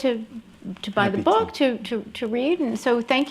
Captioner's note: applause